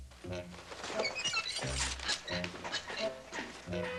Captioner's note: armor squeaking and rattling